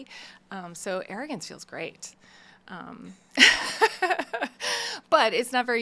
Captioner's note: laughing